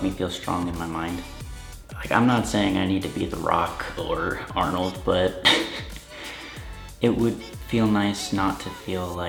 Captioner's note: laughs